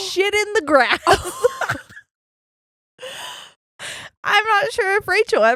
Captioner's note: laughing